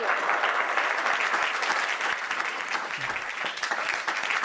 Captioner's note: audience applauds